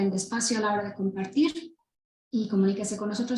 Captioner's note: speaking Spanish